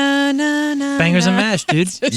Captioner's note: humming